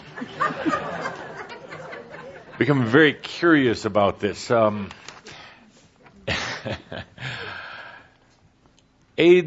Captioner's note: laughter